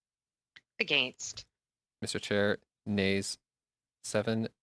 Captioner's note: speaking French